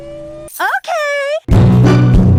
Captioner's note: In Holly's voice